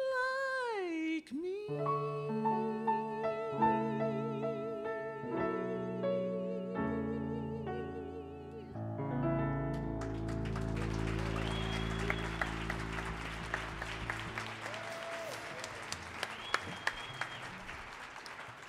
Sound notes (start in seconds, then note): 9.9 audience cheers and applauds